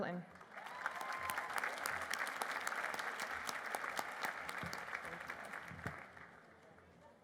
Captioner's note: applause